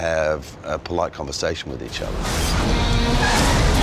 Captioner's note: car tires screeching